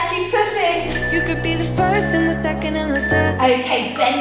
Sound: alarm beeping

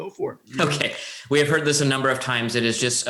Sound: chuckles

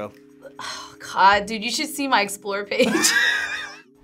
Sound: sighs; laughs

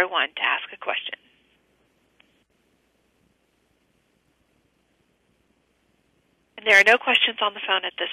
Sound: pause

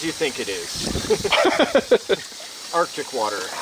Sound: laughing

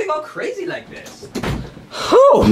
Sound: door thuds

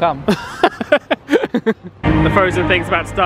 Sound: laughs

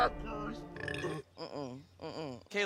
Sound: belching

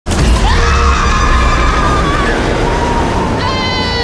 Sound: both screaming

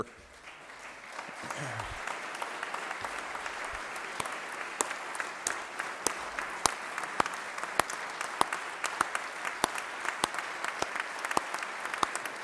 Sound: applause

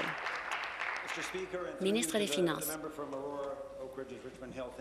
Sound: applause

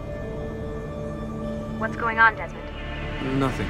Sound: Lucy through radio

